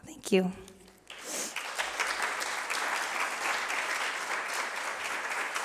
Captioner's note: applause